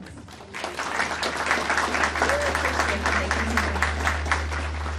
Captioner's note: audience applauding